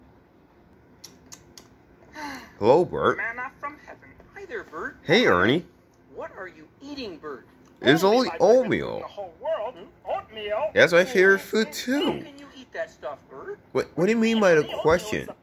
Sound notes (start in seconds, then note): 1.0 bert smacking lips; 2.1 sighing